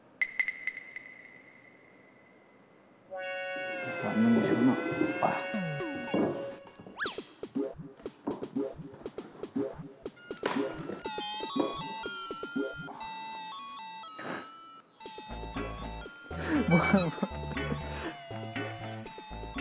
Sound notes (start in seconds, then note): 14.1 haha